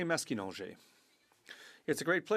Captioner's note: speaking French